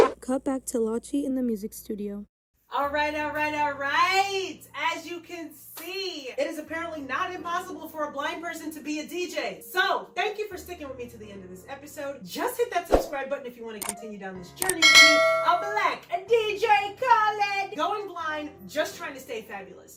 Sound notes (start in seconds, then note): none